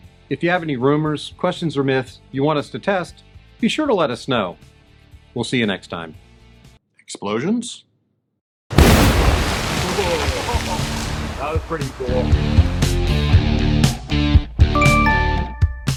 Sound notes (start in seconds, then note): 8.7 explosion